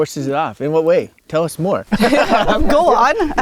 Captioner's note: all laughing